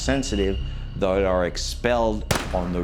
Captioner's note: gun firing